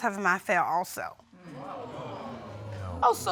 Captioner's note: audience exclaims